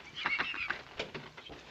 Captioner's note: laughs